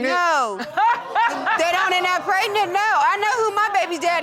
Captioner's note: Judge Lake laughing